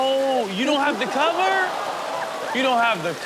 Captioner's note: audience gasps